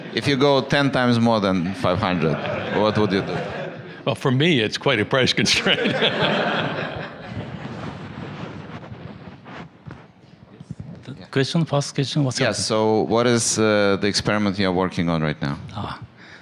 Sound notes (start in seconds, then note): 5.5 laughter; 11.5 voiceover